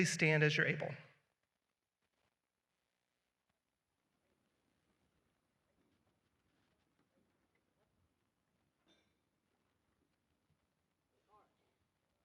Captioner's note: silence